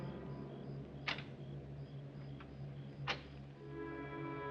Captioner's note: door clicking